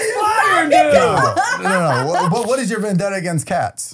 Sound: laughing

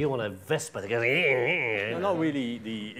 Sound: imitating scooter

